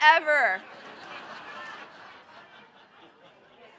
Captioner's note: laughter